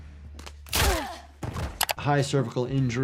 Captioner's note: neck snapping; body thudding